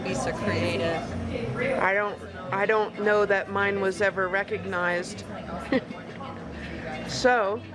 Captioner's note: chuckles